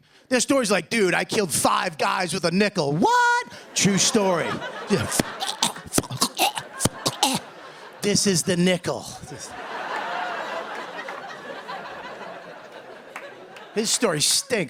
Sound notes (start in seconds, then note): 4.9 imitating choking; 9.3 laughter